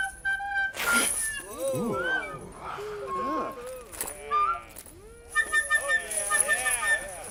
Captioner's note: discordant flute music; fabric tearing; crowd groaning